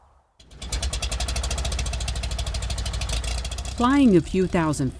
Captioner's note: plane rattling